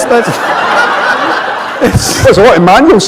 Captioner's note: laughter